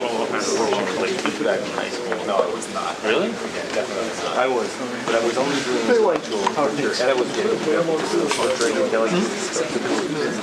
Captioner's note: indistinct conversation